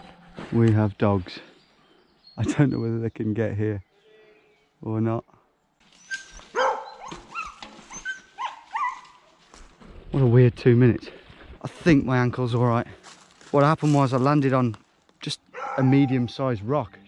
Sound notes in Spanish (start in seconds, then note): 6.2 perros perdiendo la cordura